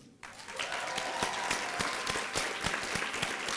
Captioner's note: applause